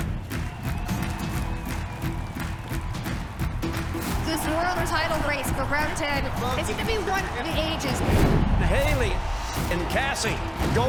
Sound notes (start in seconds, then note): 1.1 crowd cheering